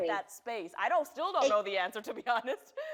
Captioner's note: laughs